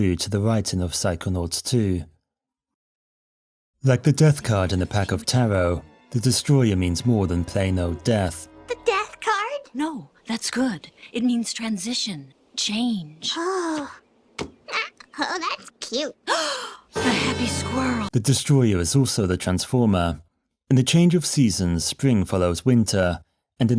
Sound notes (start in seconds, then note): 16.2 gasps